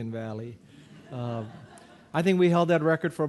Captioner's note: audience laughing